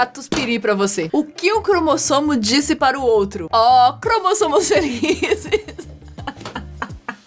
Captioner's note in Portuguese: Risadas